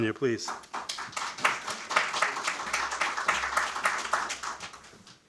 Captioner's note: attendees applauding